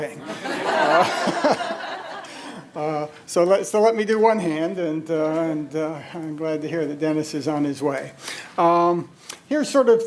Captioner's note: audience laughter